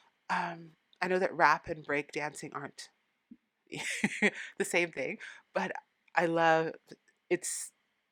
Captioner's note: laughing